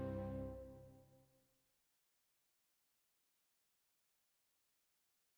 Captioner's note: silence